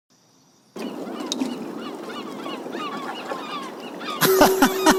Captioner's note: birds chirping